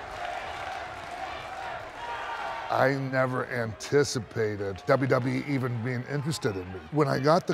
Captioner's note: applause